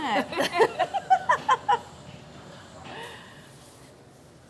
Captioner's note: both chuckling